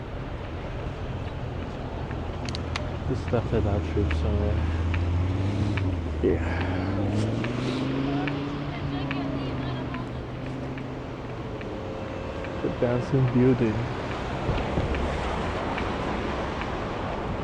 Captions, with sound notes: This stuff had our troops on. Yeah. (Wind Blowing) The dancing beauty.